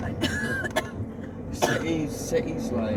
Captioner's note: coughs